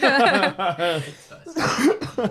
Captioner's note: group laughs